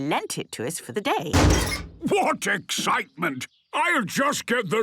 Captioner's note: metallic door bursting